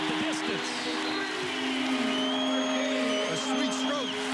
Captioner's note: crowd cheers